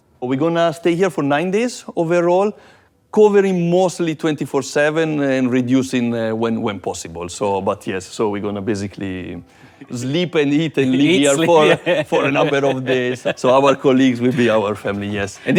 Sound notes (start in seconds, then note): 10.8 laughs